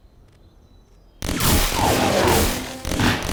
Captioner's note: gunshots